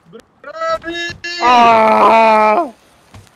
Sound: shouting

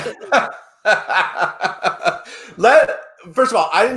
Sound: laughing

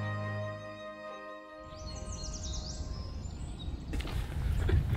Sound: birds chirping

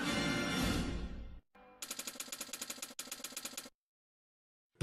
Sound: typewriter keys clicking

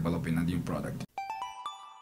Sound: chime

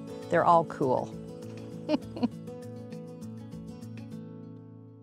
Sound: laughs

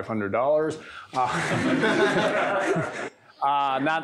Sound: laughter

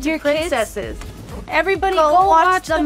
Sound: screen whooshing

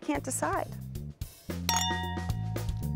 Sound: glasses clink

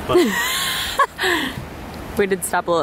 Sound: laughs

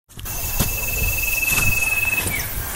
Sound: footsteps

